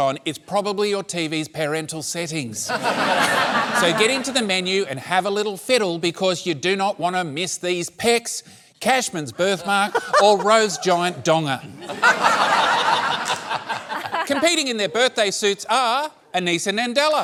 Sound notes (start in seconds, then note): 11.7 laughter